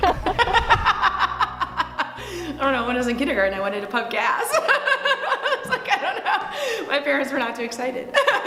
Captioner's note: laughs